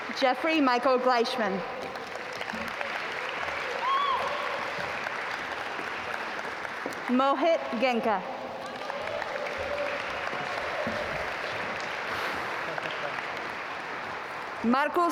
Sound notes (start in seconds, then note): 2.6 audience applaud; 9.3 audience applaud